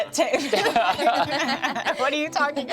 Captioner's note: laughs